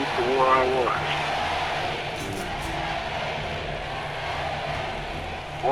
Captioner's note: crowd chatters loudly